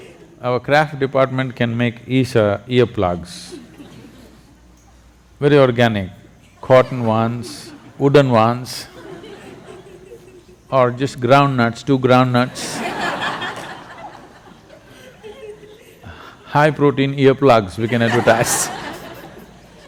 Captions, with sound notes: Our craft department can make Isha earplugs, very organic, cotton ones, wooden ones or just groundnuts, two groundnuts (Laughter). High protein earplugs – we can advertise (Laughter).